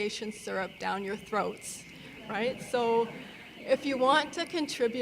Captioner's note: audience laughing